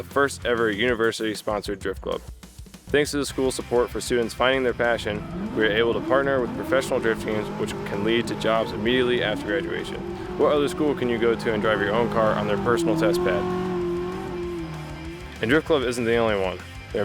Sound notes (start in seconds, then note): 13.5 car engine revving